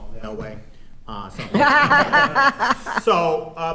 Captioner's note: and others laughing